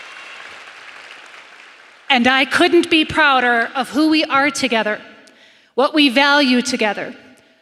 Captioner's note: applause